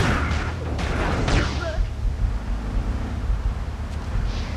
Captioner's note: screams